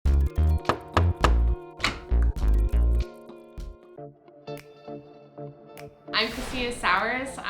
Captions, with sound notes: [knocking] [door opens] I'm Christina Sours.